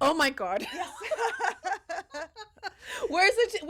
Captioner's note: both laughing